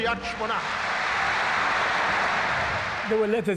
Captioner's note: crowd cheering